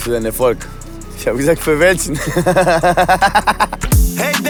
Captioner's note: laughing